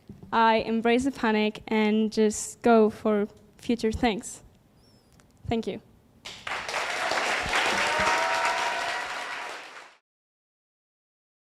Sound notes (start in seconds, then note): 6.2 applause